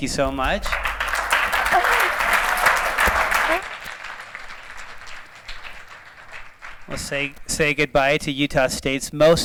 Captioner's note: applause